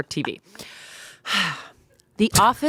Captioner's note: sighs